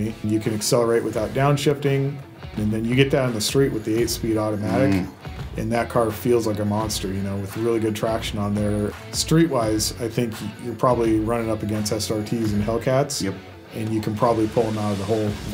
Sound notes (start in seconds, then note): 4.6 hums agreement